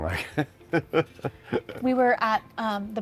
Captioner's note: chuckles